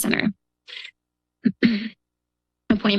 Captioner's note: clears throat